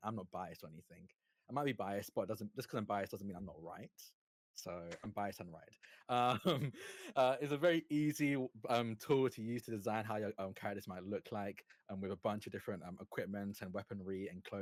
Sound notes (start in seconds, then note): 6.2 chuckles